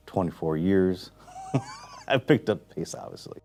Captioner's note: laughs